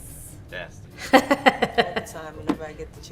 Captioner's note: laughs